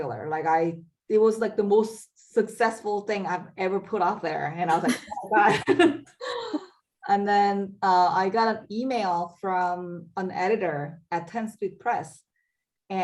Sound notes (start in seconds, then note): 4.8 laughing